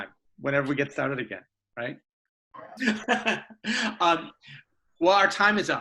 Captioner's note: laughs